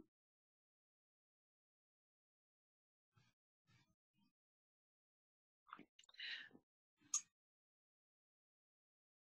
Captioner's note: pause